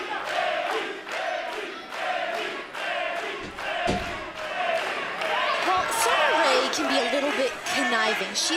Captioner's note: crowd cheering